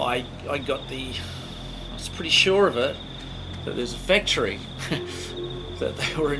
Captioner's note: chuckles